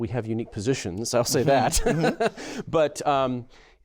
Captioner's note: laughter